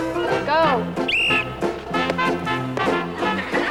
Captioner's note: whistle